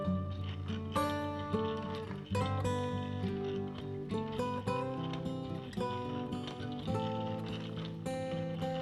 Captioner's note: shudders